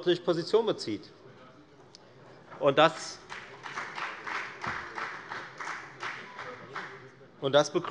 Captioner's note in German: Beifall bei der FDP